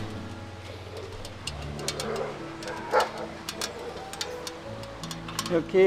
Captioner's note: dogs growling